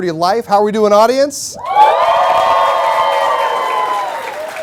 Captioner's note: cheers and Applause